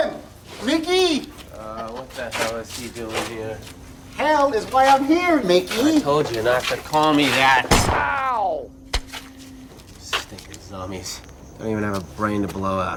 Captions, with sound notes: How you doing, Ricky?! Uh, what the hell is he doing here? Hell is why I'm here, Mickey. I told you not to call me that. [ Gunshot ] Ow! Stinkin' zombies.